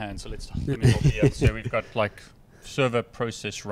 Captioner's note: laughing